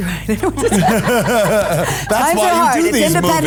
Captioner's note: cast laughs